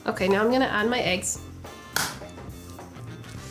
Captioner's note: noise of eggs breaking